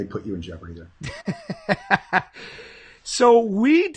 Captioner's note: laughing